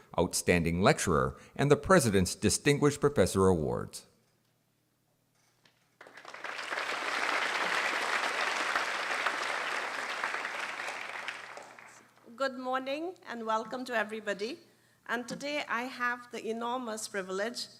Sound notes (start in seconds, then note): 5.9 applause